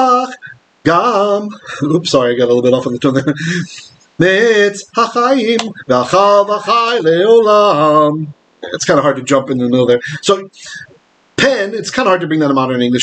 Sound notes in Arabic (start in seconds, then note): 2.5 بالعبرية; 10.2 باللغة العبرية